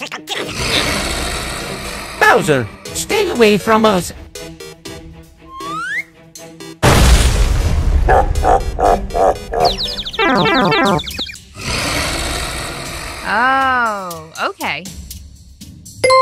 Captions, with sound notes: Bowser, stay away from us! (Bowser laugh) Oh, okay!